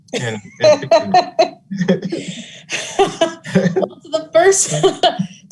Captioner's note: laughing lightly